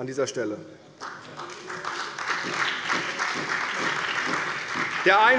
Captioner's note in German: Beifall bei der CDU, der SPD, dem BÜNDNIS 90/DIE GRÜNEN und der FDP